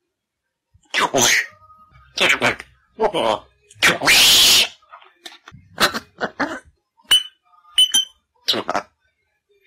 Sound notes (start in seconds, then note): 5.8 laughing; 6.5 squeaking